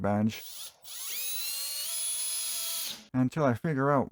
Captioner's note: power drill sounds